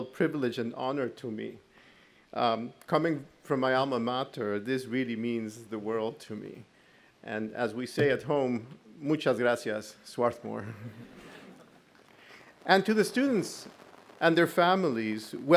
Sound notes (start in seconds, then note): 8.8 speaks in foreign language; 10.6 audience laughs